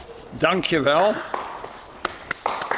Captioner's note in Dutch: applaus